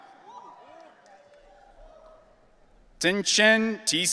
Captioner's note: audience cheering